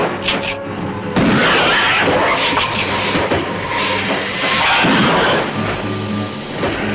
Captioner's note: gun firing; lizard hissing